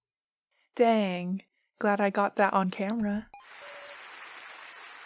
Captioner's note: applause